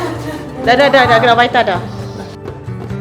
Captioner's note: speaking German